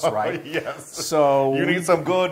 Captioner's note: laugh